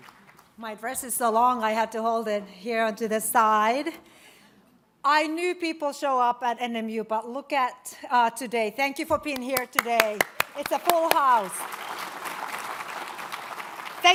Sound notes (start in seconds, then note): 9.4 applauding; 11.8 audience applauds